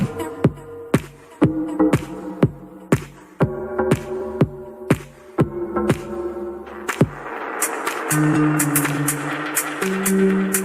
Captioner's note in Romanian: Aplauze